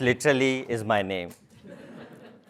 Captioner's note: laugh